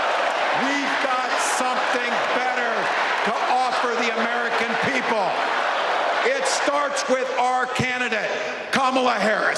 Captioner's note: crowd chanting